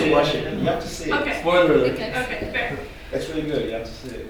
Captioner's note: various audience members talking about spoiler alerts